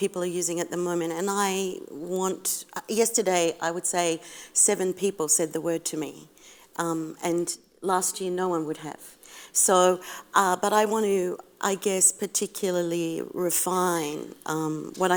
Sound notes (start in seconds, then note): none